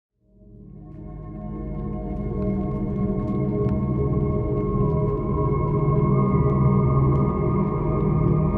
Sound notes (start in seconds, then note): 0.0 static crackling; 0.4 eerie music